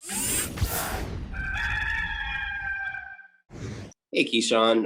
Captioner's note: rooster crowing